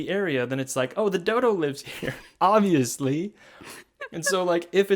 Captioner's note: laughs